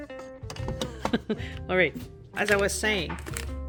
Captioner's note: laugh